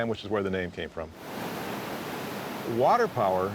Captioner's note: water rushing